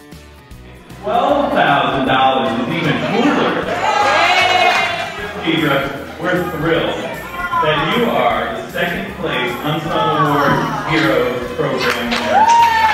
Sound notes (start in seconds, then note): 4.2 applause; 11.7 cheering